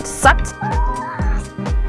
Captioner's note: cat meows